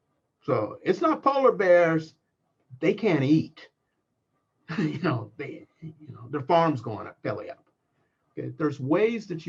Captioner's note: laugh